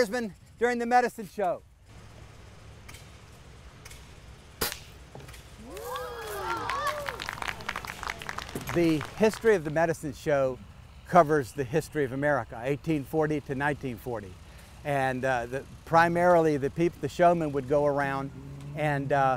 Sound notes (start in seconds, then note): 10.3 applause